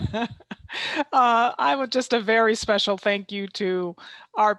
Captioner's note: laughter